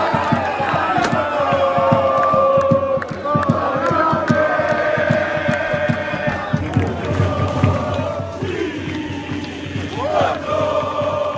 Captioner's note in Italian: Applauso